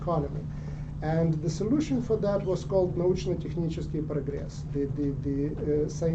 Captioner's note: non-english speech